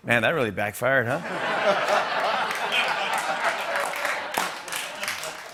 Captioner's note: laughter